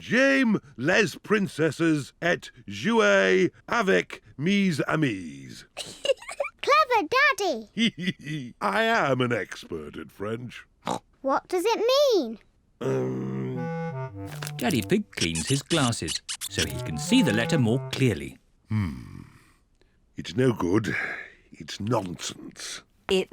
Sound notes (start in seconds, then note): 5.8 giggles; 8.4 giggles; 11.2 snorts